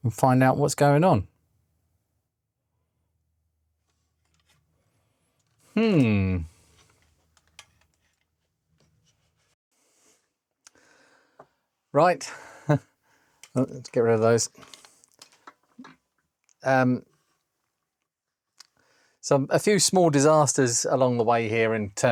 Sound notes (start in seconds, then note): 6.2 silence